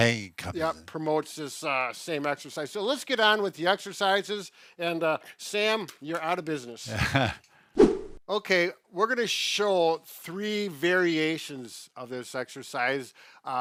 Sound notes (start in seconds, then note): 6.8 laughs